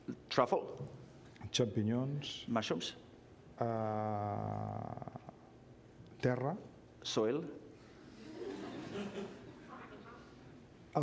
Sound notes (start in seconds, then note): 1.7 speaking catalan; 6.1 speaking catalan; 8.1 laughter